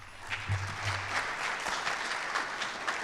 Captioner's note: applause